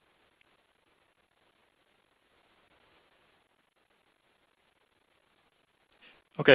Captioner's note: silence